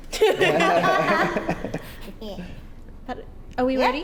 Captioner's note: laugh